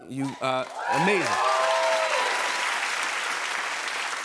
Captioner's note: cheers and applause